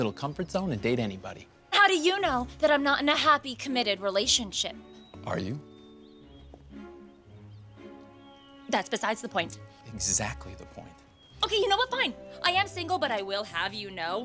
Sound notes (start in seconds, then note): none